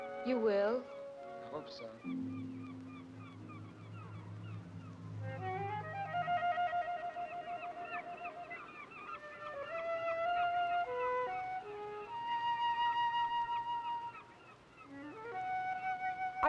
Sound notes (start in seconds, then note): 1.8 ominous music; 2.3 seagulls squawking